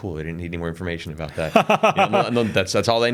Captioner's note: laughs